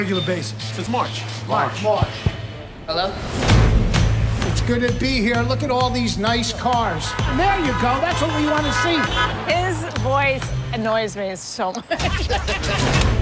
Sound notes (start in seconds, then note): 6.7 cars honking; 11.7 laughs